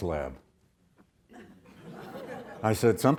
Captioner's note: audience laughs